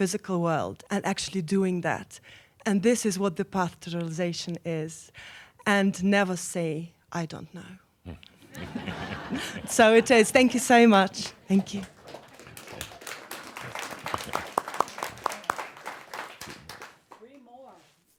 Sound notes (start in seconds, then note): 8.1 some chuckles; 15.9 applause